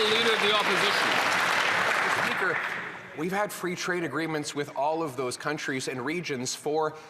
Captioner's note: some Applause